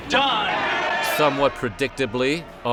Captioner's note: audience clamoring